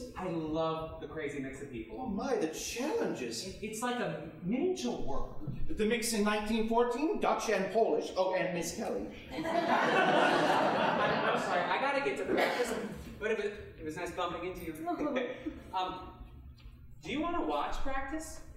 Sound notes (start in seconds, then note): 9.3 audience laughing; 15.3 both chuckling